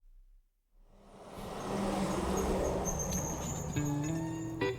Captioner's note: truck engine roaring